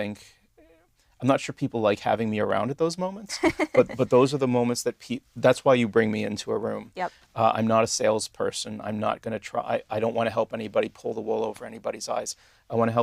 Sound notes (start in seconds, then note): 3.4 laugh